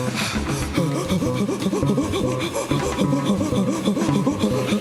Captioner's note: gasping rhythmically